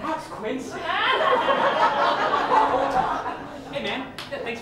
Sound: laughter

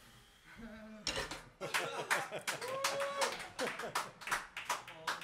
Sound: chuckles, cheers and claps

